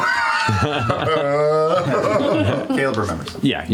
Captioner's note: laughter